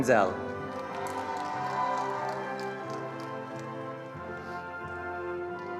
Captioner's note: attendees applauding